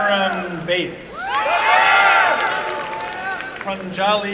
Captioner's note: applause and cheering